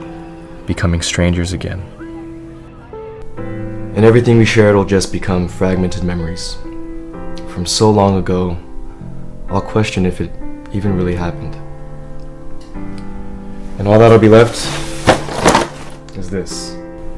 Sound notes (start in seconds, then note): none